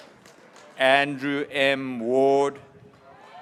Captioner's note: graduates cheering